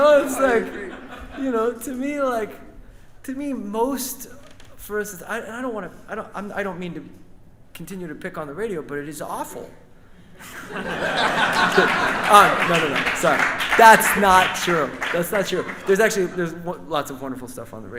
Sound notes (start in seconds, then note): 10.4 audience and band laughs; 11.1 audience claps